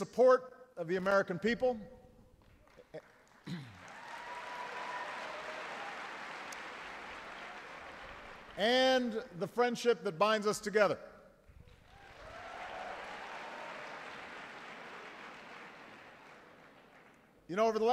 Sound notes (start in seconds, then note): 2.3 applause